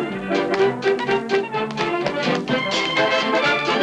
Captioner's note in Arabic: صوت نقر الأحذية